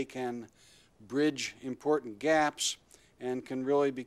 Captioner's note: none